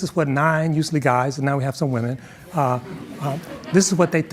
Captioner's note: audience chuckling